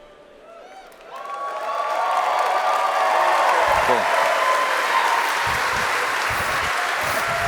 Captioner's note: applause